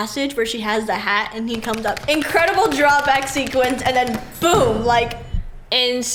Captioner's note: boom